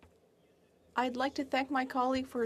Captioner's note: speaking French